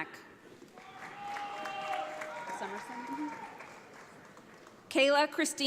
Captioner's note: audience applauds